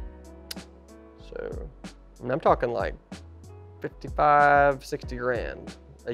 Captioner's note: tongue clicks